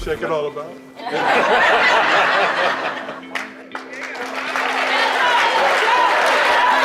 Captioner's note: laughter